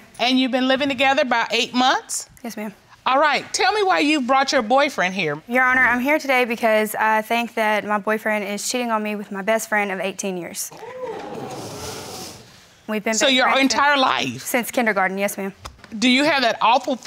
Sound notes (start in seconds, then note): none